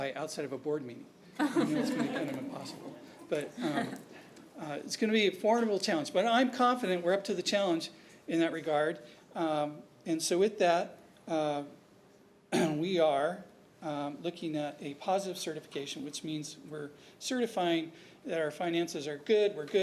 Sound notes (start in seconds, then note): 1.4 laughter